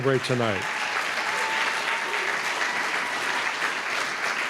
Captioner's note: applause